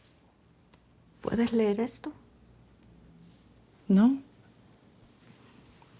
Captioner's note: women speaking Spanish